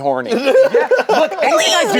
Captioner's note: laughs